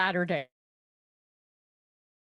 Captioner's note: audio gap